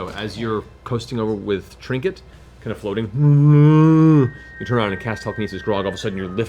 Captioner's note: bear sounds